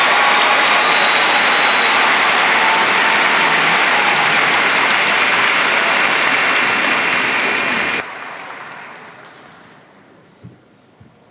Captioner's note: applause